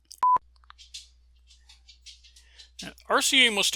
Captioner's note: dog nails clacking on floor